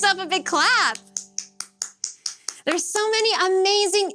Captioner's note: clapping